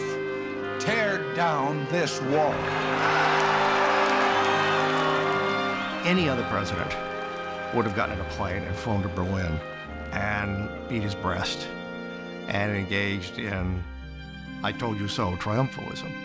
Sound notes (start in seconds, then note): 2.2 cheering